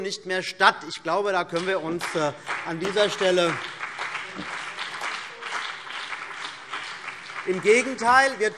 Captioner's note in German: Beifall CDU und BÜNDNIS 90/DIE GRÜNEN